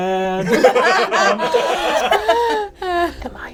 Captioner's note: all laugh